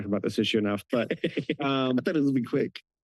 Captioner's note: laughs